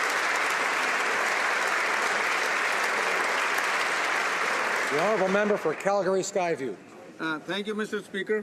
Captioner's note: applause